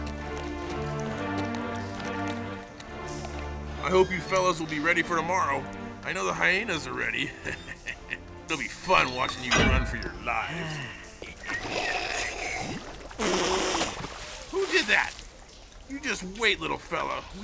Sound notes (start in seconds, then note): 7.3 risas